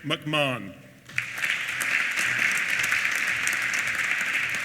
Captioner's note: applause